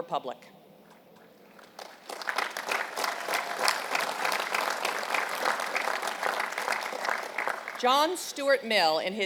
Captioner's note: applause